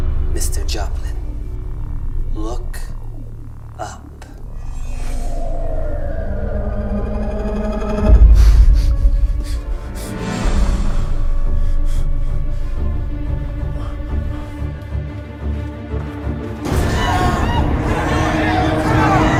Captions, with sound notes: ...Mr. Joplin. Look... ...up. *heavy breathing* *cries of help*